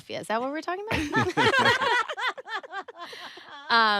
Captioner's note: all laugh